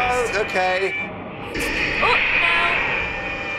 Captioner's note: in trailer: growl